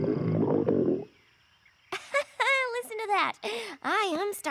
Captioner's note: laughs nervously